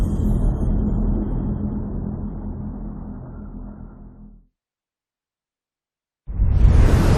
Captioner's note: dramatic sound